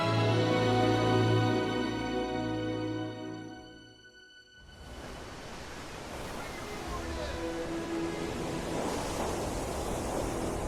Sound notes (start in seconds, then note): 4.7 waves crashing